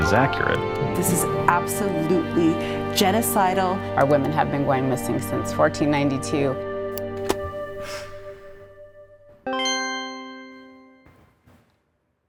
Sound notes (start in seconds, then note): 7.1 exhales; 8.7 notification dings